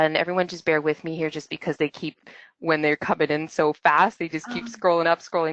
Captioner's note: laughst